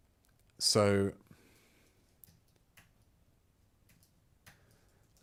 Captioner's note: silence